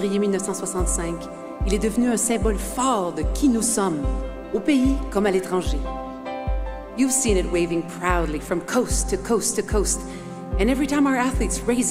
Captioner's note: speaking French